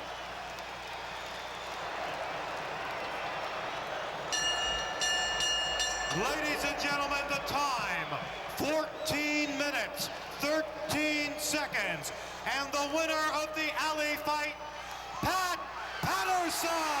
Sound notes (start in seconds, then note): 4.3 bell rings